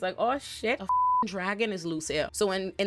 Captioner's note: beep